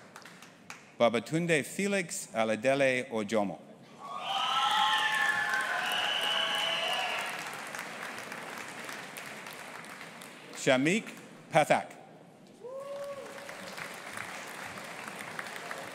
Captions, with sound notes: Babatunde Felix Oladele-Ojomo. (AUDIENCE APPLAUDING AND CHEERING) Shamik Pathak. (AUDIENCE APPLAUDING)